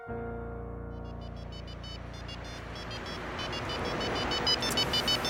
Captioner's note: weeping; cell phone ringing